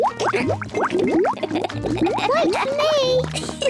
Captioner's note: oinks; laughs